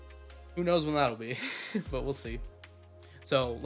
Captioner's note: chuckles